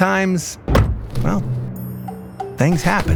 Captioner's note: bumper hit sound